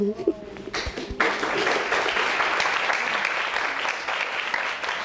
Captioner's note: audience applauding